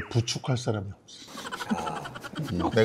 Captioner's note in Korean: 웃음